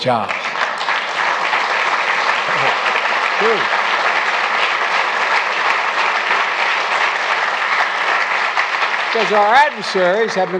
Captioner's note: laughs; applause